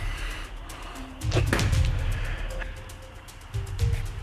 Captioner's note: Jason spits